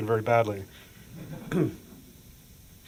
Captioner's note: laughter